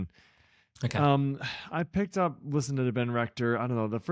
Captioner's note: sighs